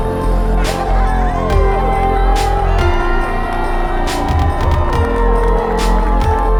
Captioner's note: cheering